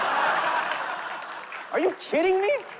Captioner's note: laughter